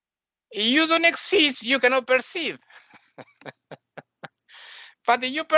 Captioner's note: laughing